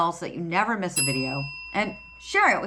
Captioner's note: notification bell dings